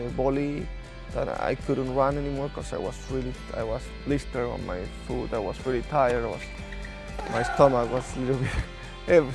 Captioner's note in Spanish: risas